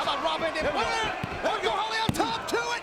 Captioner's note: hand slapping